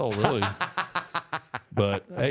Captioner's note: Michael laughs